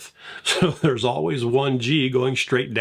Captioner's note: chuckles